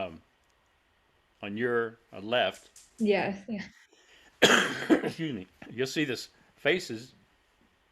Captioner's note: coughs